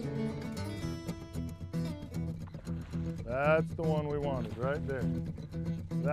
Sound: splashing

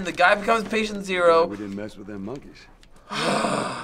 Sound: irritated sigh

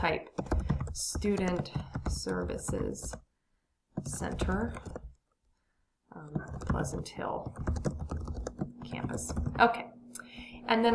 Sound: typing

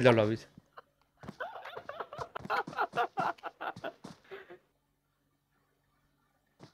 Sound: chuckles

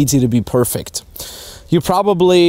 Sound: inhales deeply

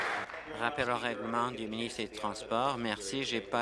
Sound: applause

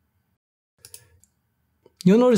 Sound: mouse clicks

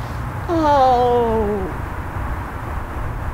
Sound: crying

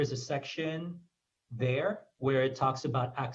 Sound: foreign language

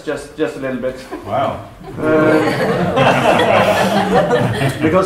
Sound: laughter

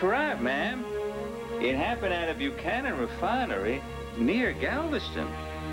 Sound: texas accent

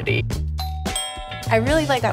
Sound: doorbell chimes

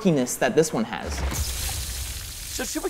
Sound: water spraying everywhere

